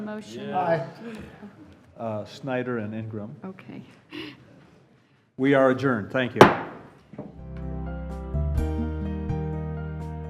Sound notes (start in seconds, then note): 6.4 gavel bangs